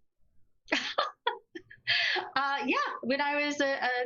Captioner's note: laughing